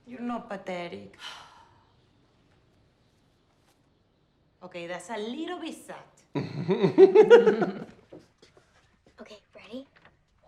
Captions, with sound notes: - You're not pathetic. - Okay, that's a little bit sad. (both laugh) - Okay, ready?